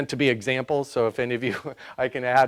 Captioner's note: laughs